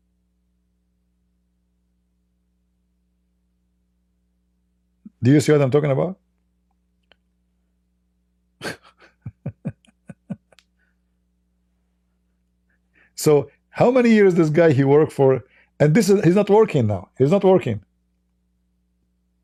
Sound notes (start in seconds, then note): 8.6 Ketawa